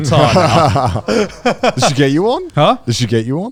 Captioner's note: both laughing